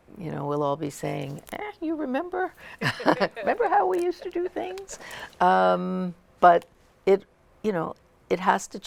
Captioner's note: laughter